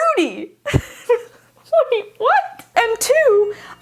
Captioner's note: laughs